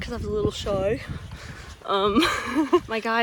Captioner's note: laughs